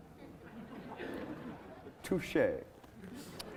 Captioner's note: laughing